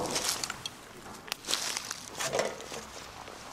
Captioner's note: rustling